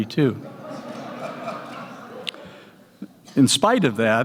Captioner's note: laughter